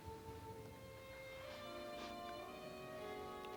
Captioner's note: sniffs